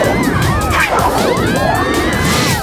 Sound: all screaming

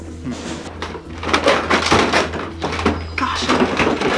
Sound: toys clattering together

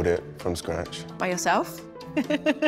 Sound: chuckles

